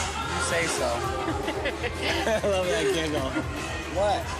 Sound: laughing

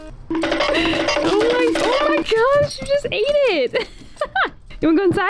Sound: energetic music plays; laughs

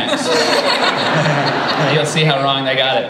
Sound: laughter

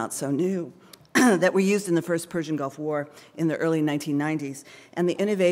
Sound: cough

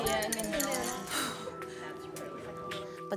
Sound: sighs

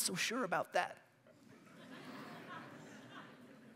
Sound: laughter

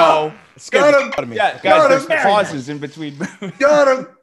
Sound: laugh

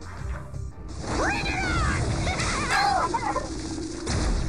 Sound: laughs

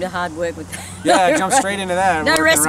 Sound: laughs

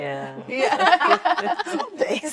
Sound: laughter

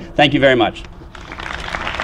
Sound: applause

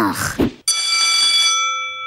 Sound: groaning; bell ringing

